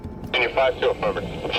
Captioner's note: tower chatter